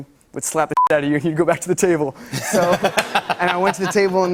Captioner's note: laughter